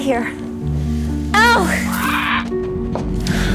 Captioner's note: crow squawks